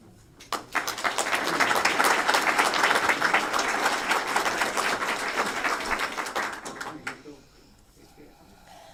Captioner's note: applause